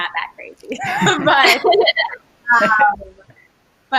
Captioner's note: laughs